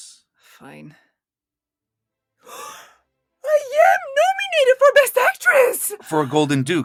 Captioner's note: gasp